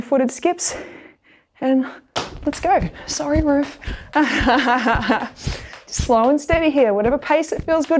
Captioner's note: laughs